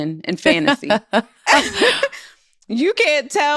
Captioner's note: laughter